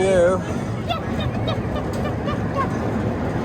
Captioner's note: making monkey noises